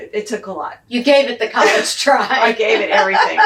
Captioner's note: laughs